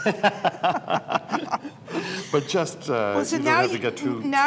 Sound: laughter

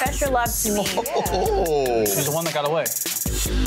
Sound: laughing

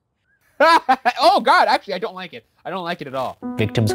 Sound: laughing

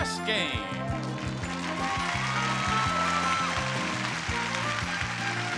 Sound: audience applauding

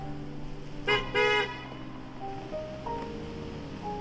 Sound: car beeps

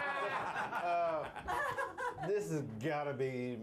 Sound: laughter

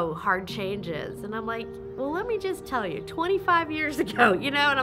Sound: laughingly

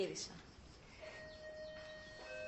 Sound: doorbell rings

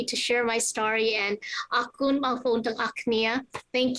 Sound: non-english

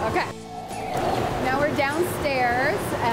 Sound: air whooshing

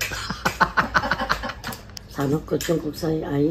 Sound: laughing

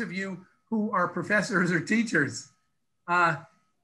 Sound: laughs

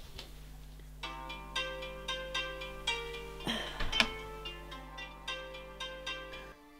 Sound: a call sound at Ana’s phone

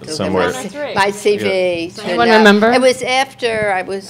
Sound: group chattering

